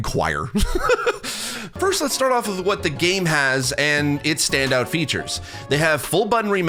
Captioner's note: laugh